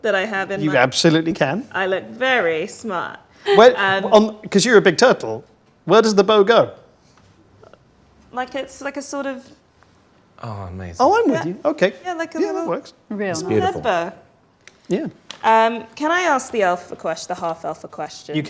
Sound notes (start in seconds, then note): 13.3 overlapping chattering